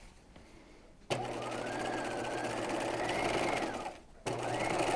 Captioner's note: sewing machine whirs